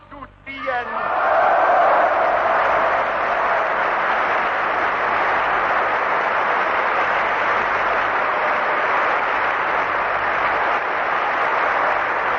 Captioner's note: applause